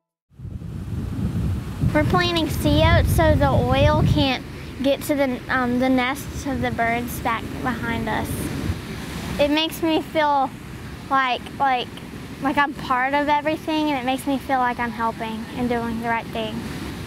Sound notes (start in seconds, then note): 0.8 sound of waves